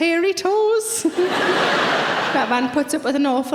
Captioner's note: audience laughing